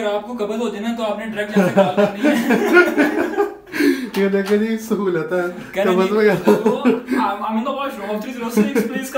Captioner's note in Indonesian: tertawa